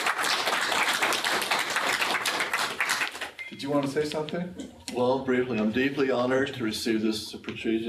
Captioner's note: applause